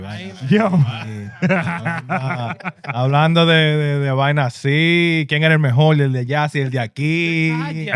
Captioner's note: laughing; speaking In Foreign Language